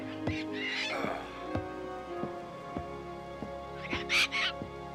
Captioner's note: Captain Flint squawking